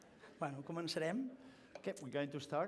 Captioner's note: non-english speech